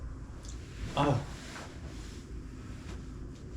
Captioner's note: groaning